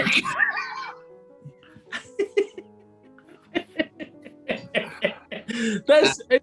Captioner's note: laughing